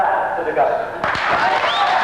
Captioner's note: applause